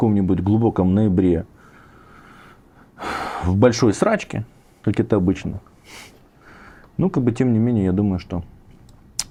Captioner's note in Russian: фыркает